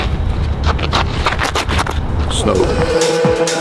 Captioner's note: scraps shoe on ground